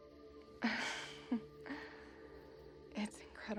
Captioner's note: both chuckling